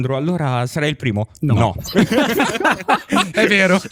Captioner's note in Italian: laughter